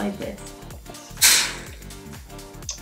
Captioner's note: pfft